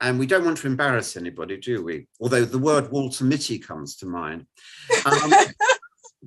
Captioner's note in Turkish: Gülüşmeler